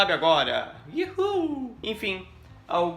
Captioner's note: happy noise